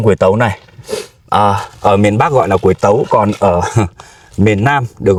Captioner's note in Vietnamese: khịt mũi